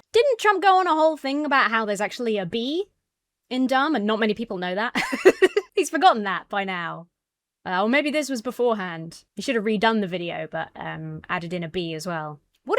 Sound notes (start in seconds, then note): 4.9 laughs